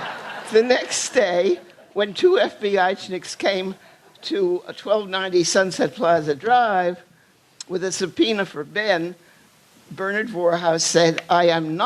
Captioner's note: applause